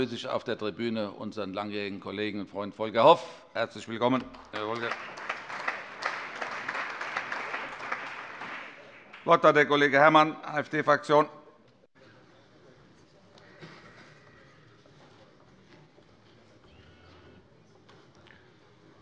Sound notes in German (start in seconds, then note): 5.7 Allgemeiner Beifall